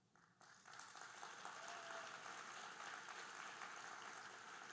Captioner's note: audience applauding